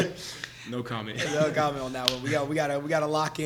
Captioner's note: laughs